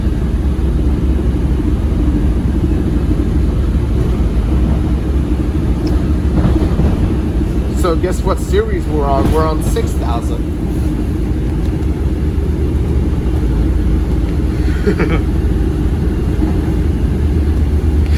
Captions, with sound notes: So guess what series we're on, we're on 6000. [laughs]